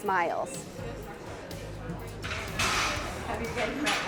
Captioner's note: students chattering